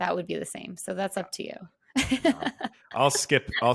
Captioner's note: laughs